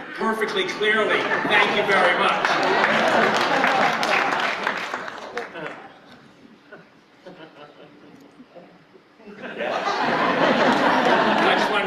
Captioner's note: laughter